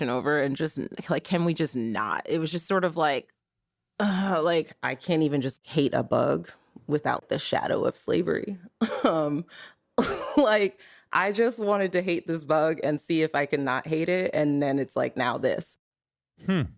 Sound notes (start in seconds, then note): 8.9 laughs